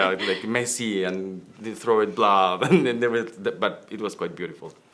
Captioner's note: laughs